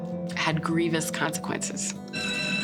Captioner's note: fire alarm ringing